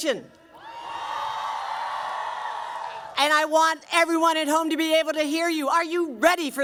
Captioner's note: cheering